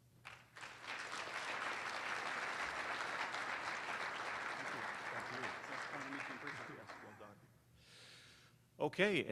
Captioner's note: applause